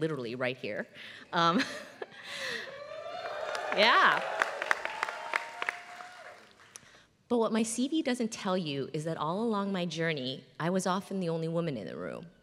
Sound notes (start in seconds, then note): 1.4 laugh; 2.9 applause